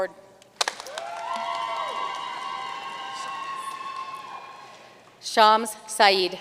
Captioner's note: audience cheering and applauding